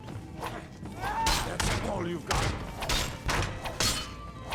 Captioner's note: swords clanking